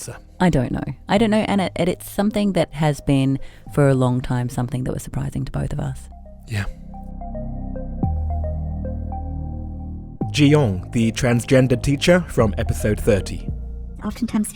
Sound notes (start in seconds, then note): 9.0 voiceover